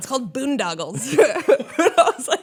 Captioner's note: laughter